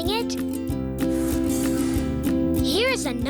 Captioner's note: whooshing